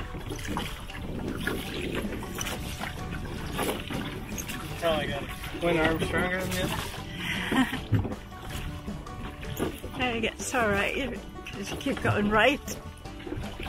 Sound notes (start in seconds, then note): 7.2 chuckles